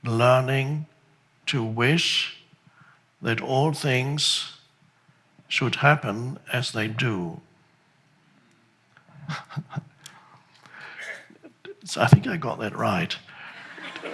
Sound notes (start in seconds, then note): 9.0 laughs